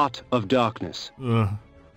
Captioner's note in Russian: вздох